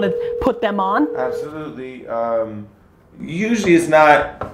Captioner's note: phone ringing